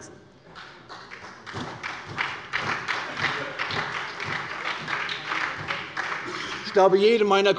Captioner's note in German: Beifall bei der SPD